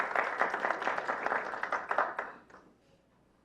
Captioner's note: clapping